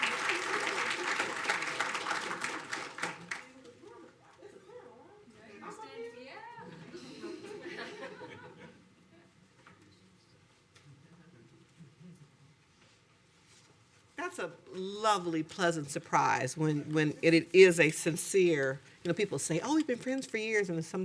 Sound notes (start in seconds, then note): 4.2 people chattering indistinctly